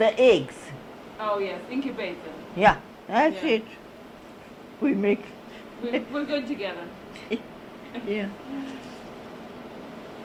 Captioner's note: laugh